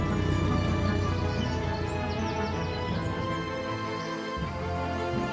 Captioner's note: birds chirping